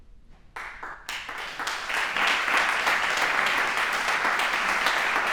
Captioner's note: applause